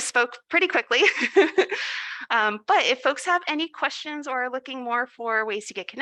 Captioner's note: laughs